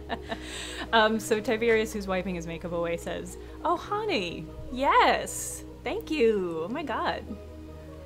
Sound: laughs

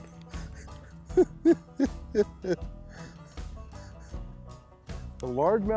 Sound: giggling

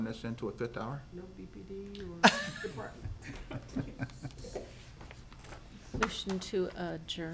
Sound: laughing

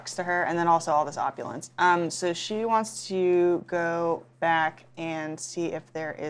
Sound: none

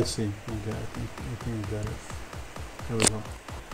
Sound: upbeat music in background; speaks faintly

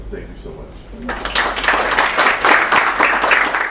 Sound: applause

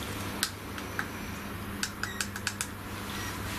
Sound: clicking

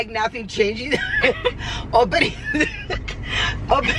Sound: laughing

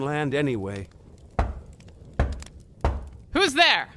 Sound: knocking on the door

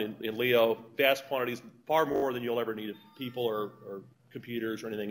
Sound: cell Phone Rings

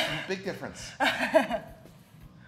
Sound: laugh

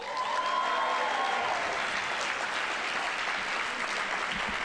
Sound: audience applauding

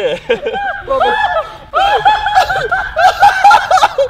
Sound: laughing

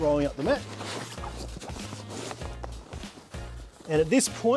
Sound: mat squeaking

